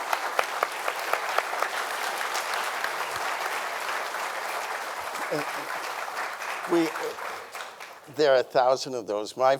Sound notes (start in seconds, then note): 3.2 audience applauding